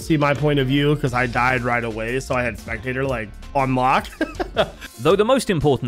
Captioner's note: laughs